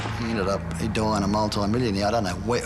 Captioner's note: gun firing